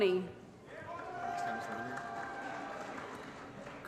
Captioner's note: applause & Cheering